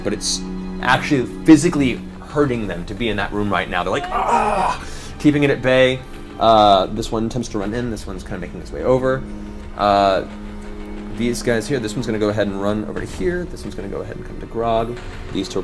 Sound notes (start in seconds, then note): 3.8 groans